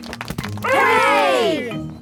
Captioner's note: crowd applauding